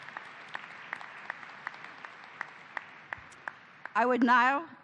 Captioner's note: applause